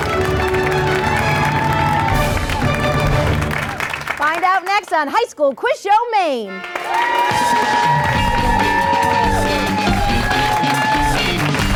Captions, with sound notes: Find out next on High School Quiz Show Maine! (applause) (upbeat guitar)